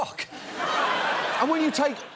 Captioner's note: laughter